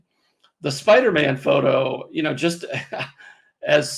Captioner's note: chuckles